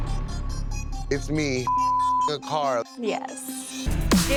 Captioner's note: beep